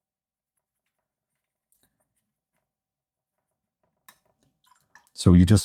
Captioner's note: silence